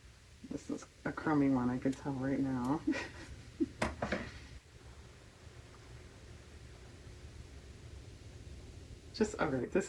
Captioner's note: laughs